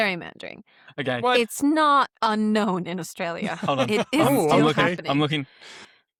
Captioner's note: laughter